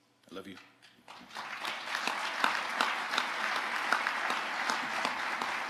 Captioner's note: audience applauding